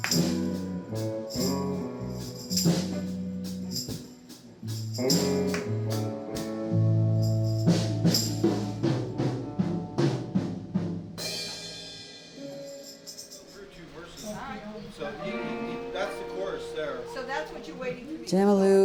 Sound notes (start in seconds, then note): 7.4 bluesy music; 13.2 people talking